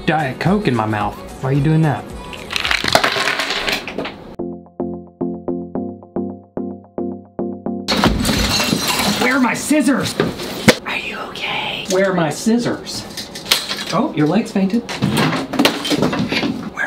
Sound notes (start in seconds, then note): 2.4 ice cubes clattering; 4.4 soft music; 7.9 materials clattering; 10.9 whispering; 15.8 lights tumbling